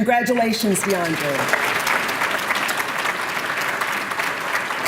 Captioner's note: applause